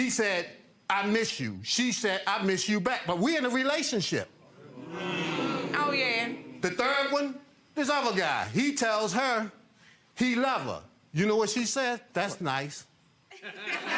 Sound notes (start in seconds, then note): 4.6 audience groans